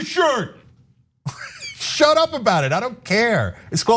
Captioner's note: laugh